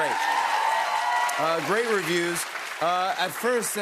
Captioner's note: cheers and applause